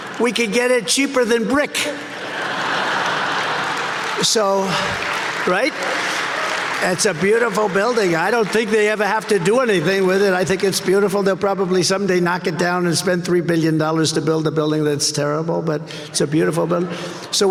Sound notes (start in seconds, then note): 2.3 audience laughing